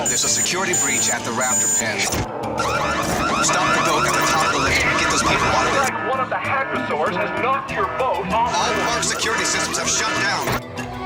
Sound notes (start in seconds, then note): 2.3 alarm blaring